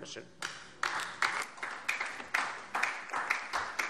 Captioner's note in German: Beifall DIE LINKE